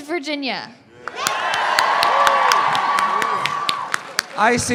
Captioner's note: roaring applause